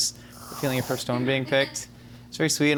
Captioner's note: whipped cream hissing